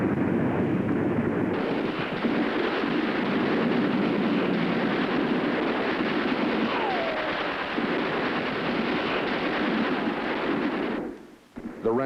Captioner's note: machine guns firing